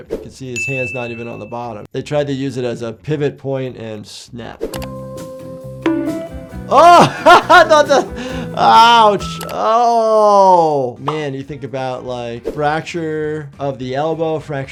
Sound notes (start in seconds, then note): 4.8 gentle music; 5.8 audio thumps; 6.8 laughs